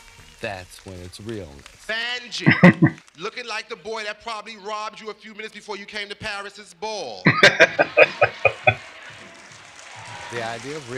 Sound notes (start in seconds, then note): 2.3 chuckling; 7.2 laughing